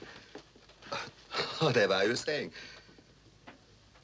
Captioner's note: breathes deeply